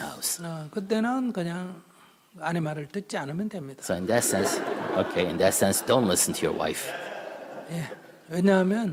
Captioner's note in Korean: 청중 웃음